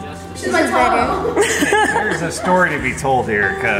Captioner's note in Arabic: يضحك